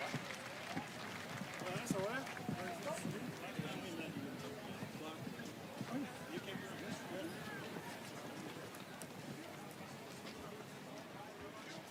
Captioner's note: speaking French